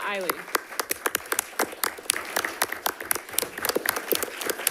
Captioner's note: audience applauding